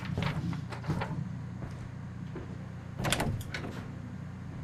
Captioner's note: footsteps